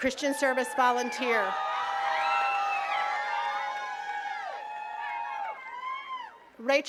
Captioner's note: attendees cheering and clapping